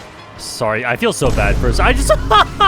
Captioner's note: laughs